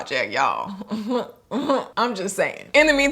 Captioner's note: chuckles